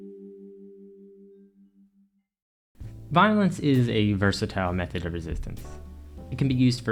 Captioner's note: transition ding